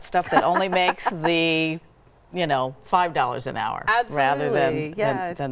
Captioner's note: laughs